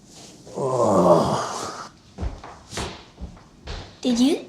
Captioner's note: groans